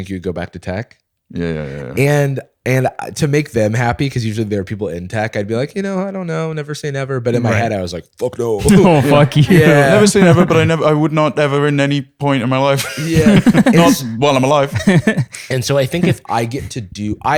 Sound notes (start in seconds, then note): 8.6 laughter; 12.7 laughing